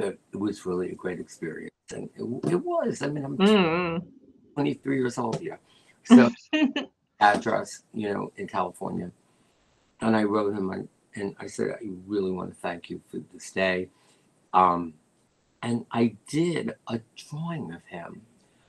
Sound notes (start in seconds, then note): 6.1 laughter